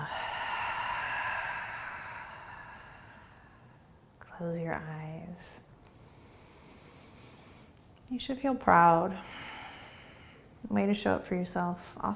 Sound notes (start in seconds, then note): 0.0 exhaling; 6.0 inhaling